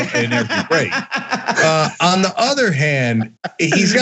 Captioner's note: laugh